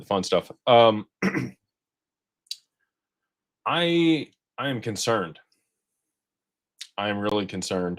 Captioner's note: clears throat